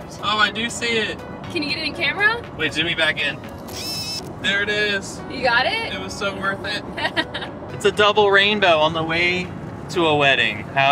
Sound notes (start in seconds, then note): 3.6 camera zooming; 7.2 laughing